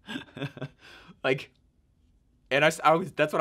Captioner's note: laughing